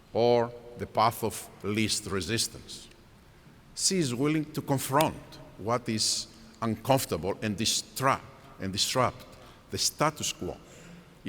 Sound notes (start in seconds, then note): none